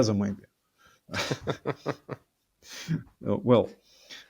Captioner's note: both laughing